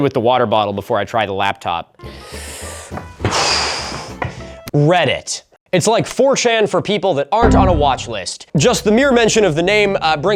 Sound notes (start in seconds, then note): 2.0 sharp inhale; 2.0 exhale